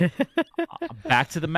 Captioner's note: laughs